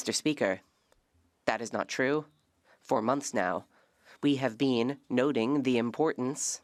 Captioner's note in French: voix de l'interprète